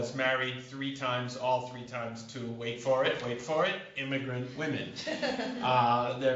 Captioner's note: laughter